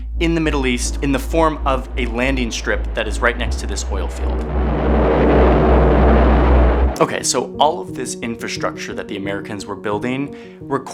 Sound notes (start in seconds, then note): 4.2 plane engine revving